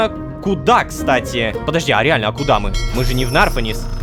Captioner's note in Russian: Звук корабельного колокола